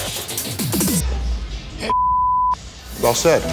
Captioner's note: beep